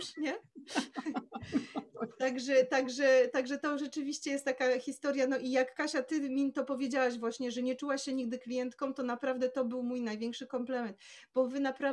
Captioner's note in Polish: śmiech